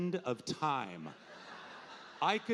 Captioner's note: audience laughing